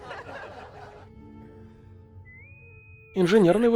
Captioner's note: intercom whistle